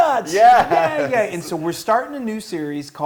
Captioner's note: laugh